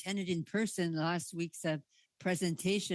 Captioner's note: speaking in French